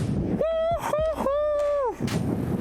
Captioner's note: wind blowing